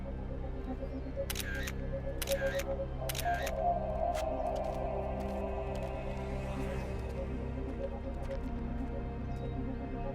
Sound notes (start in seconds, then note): 2.2 camera clicking